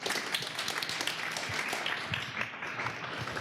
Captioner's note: applause